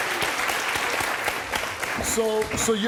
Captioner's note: audience clapping